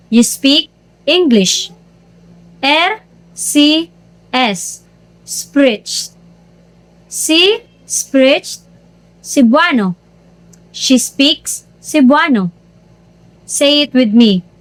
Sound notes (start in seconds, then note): 9.4 she speaks Cebuano